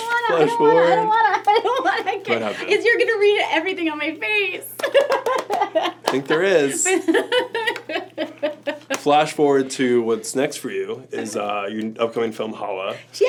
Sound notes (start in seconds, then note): 4.9 laughs; 7.1 Anna laughs